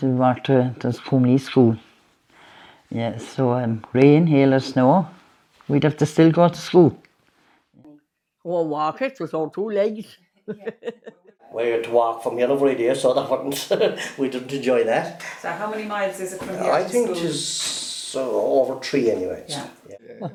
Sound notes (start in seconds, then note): 10.4 laughing